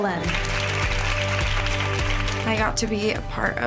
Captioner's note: cheerleaders applauding